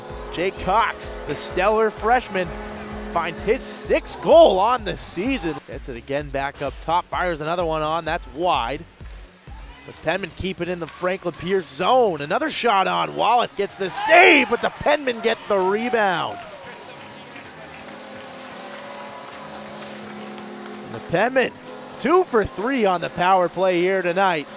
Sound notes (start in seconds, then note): 16.7 horn blowing